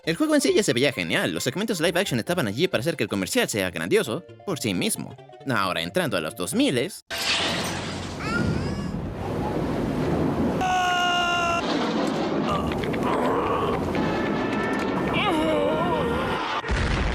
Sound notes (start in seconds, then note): 8.2 baby cries; 10.6 old man screams